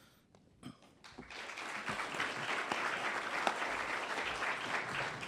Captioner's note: audience applauds